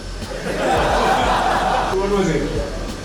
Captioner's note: laughter